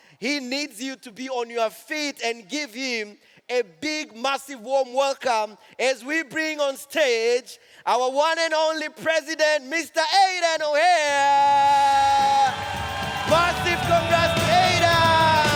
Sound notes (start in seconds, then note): 11.4 audience cheers